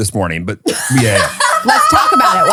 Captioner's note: laughing